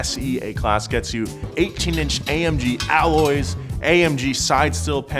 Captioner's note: metal clanking